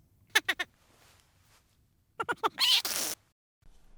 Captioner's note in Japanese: トロルは笑います。